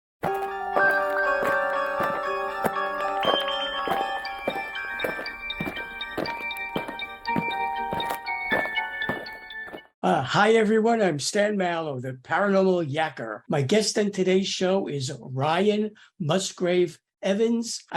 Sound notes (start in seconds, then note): 0.2 eerie music; 5.0 aliens marching